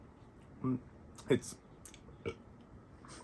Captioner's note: tiny burp